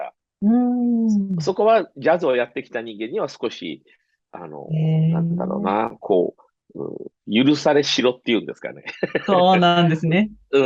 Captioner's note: laughs